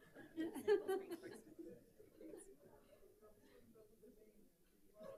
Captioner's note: speaker speaking faintly